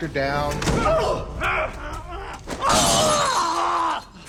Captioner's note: grunting, shouting